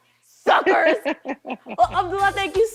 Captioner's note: laughing